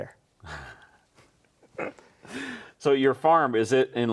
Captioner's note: laughs